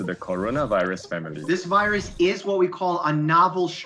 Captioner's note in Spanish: hablando en inglés